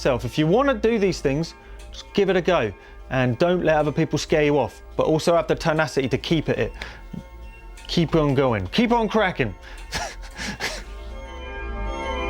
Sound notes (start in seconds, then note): 9.8 laughs